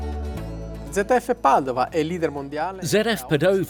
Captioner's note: speaking foreign language